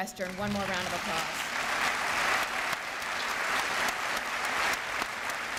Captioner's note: applause